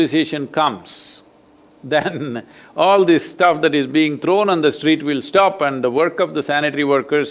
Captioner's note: laughs